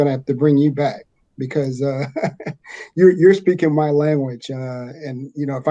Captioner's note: chuckles